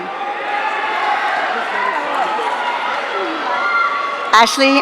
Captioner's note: audience cheering